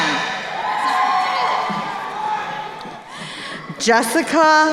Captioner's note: crowd cheering